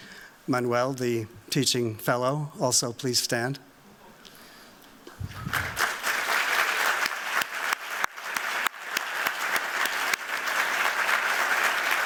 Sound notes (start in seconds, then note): 5.2 applause